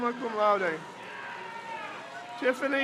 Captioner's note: crowd cheers